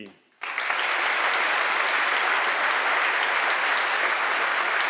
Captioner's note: audience applauding